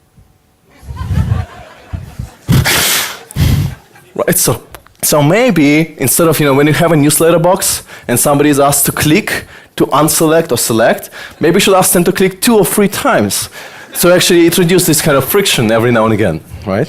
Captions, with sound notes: (audience laughter) So maybe instead when you have a newsletter box and somebody's asked to click to unselect or select, maybe you should ask them to click two or three times. So actually introduce this kind of friction every now and again.